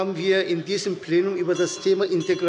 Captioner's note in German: Glockenzeichen der Präsidentin